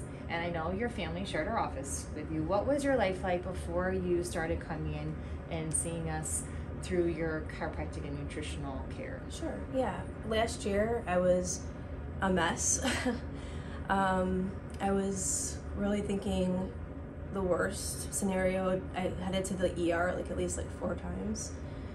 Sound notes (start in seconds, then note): 12.8 chuckles